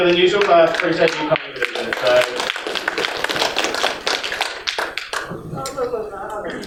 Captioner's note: applause